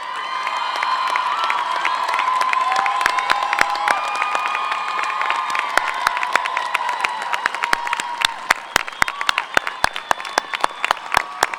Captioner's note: applause